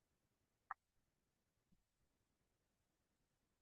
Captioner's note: silence